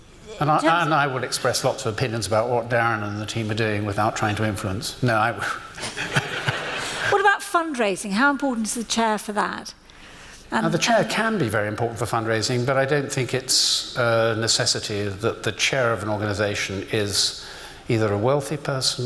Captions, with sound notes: And I would express lots of opinions about what Darren and the team are doing without trying to influence. No, I wouldn't... (laughs) What about fundraising? How important is the chair for that? The chair can be very important for fundraising but I don't think it's a necessity that the chair of an organisation is either a wealthy person